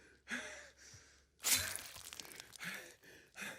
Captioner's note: blade swooshing; person panting